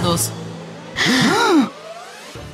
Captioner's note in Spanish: Gasp de sorpresa